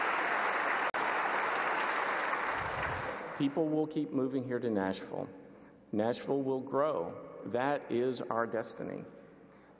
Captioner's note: applause